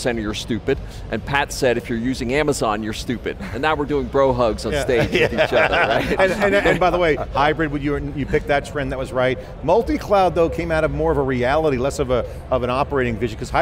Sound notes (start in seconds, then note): 4.8 laughter